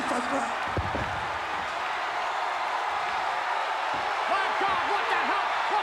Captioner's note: crowd cheering